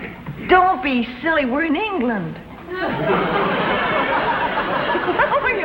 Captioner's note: laughs